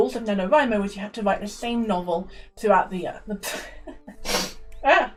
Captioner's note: splutters